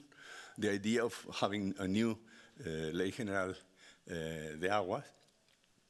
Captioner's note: speaking Spanish